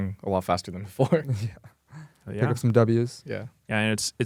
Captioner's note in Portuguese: risos